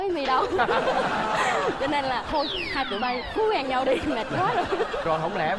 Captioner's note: laughing